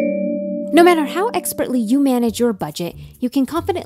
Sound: playful mystery music; voiceover

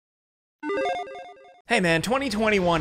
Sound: electronic beeping

